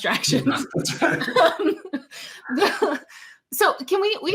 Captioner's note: laughs